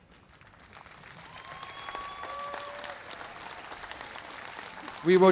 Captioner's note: applause